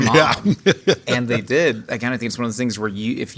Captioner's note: J.K. laughing